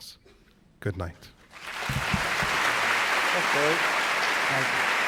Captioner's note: applause